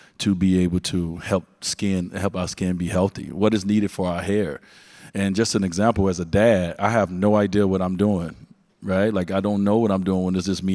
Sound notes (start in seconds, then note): none